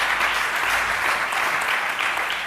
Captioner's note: applause